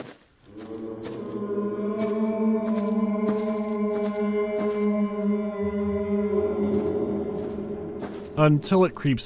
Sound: lengthy, strangely melodic wail

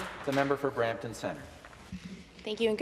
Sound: some Applause

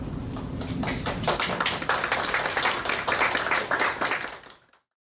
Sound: audience clapping

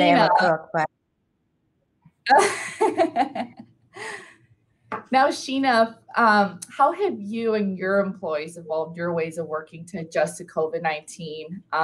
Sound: laughs

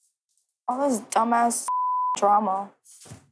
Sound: beep

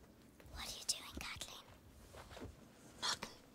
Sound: whispering

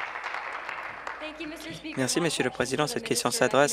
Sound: cheers; applause

